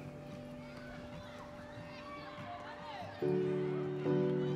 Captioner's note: children laugh